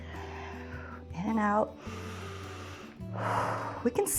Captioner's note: inhales and exhales